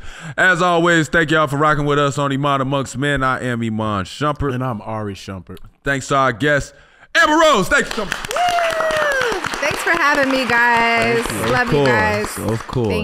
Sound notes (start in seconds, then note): 7.6 all applauding